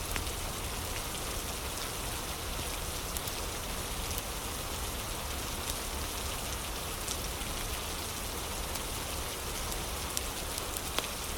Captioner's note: fire crackling